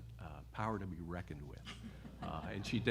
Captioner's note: laughter